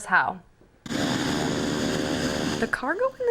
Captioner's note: engine whirring